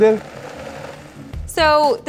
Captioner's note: blender running